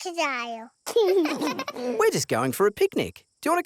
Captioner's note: both laugh